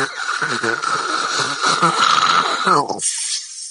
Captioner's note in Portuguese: roncos intensos